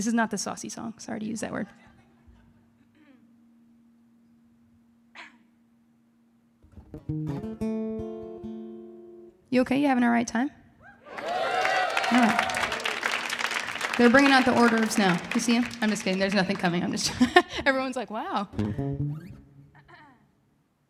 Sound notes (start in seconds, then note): 6.6 guitar strumming; 11.0 audience applauding; 17.0 laughing